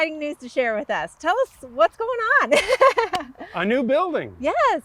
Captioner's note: laughs